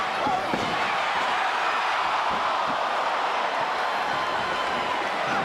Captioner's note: audience cheers